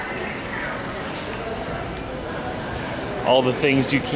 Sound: shoppers chattering

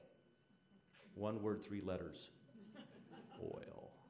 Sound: audience laughing

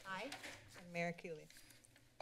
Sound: rustling paper sound

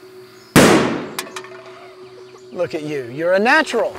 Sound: gunshot firing; can banging

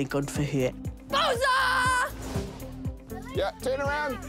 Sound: exclaims happily

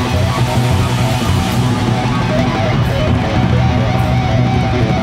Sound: audience applaud

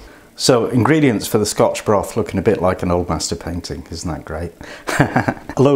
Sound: laughs

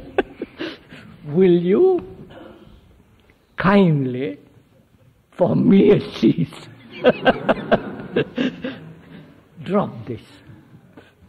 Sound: laughs

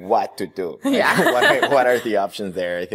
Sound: laughs

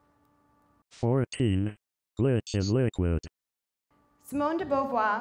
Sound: robot Voice

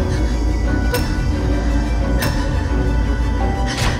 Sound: breathes heavily

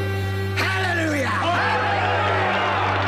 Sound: cheering

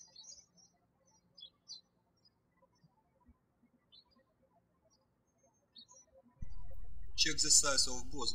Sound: birds chirping

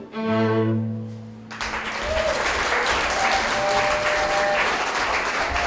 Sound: lively chamber music; audience applauds and cheers

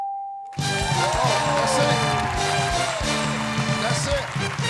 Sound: cheers and applause

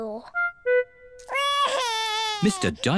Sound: wails

